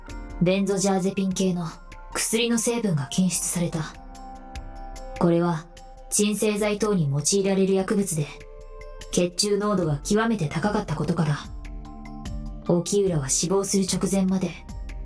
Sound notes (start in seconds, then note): none